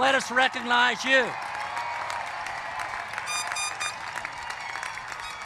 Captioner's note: applause